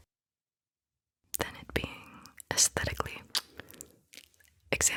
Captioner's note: kiss